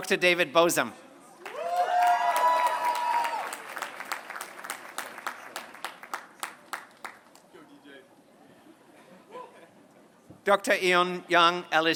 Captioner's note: applause